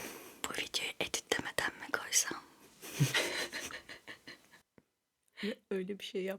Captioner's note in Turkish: kahkaha